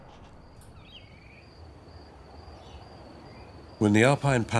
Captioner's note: birds chirp